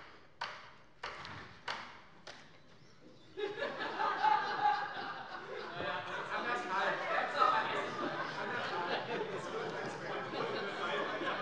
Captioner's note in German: Beifall des Abg